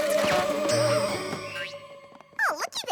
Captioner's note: shuddering; boing!